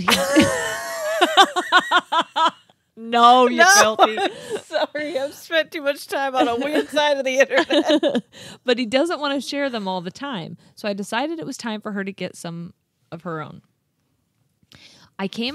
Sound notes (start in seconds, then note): 0.1 wheezing; 1.6 laughing